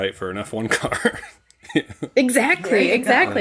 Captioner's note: laughter